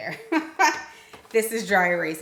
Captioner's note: laughs